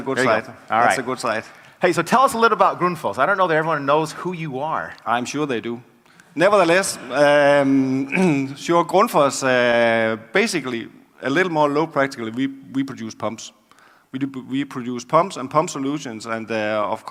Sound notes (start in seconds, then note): 5.8 laugh